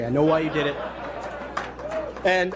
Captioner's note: laughter